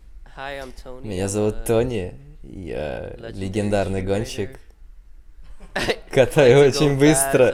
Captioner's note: everybody laughs